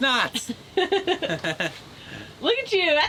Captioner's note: both chuckle